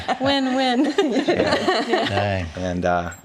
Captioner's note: laughing